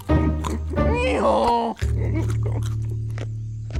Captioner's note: playful instrumental music; brays loudly